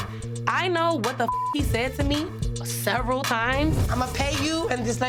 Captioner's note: beeps